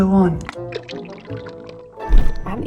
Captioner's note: viscous liquid pours; air whooshes